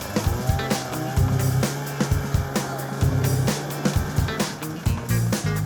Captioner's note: snowmobile engine